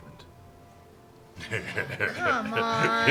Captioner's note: laughs